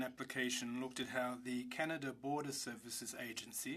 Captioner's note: speaking French